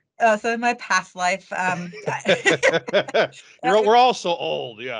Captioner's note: laughing